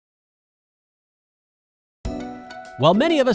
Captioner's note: beep; bright upbeat music